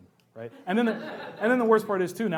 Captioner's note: laughs